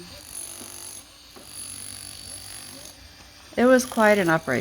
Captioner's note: jackhammer